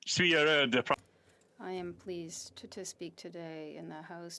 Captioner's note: speaking French